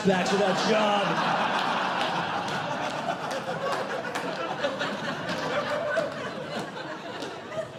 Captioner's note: audience Laughing